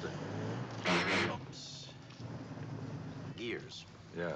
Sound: gears grind

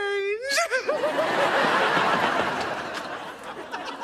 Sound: laughs

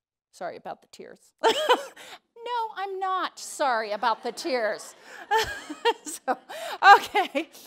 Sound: laughs

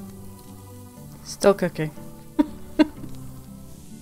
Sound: laughs

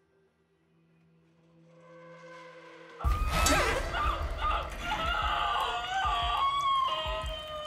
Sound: ominous music; heart beating

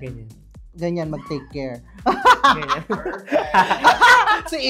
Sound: laughs

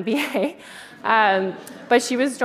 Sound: crowd laughs

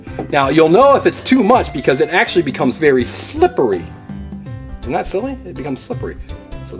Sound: none

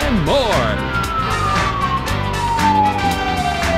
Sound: siren wailing

